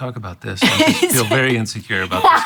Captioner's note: laughing